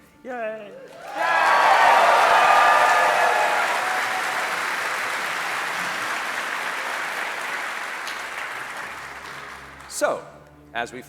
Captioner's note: cheering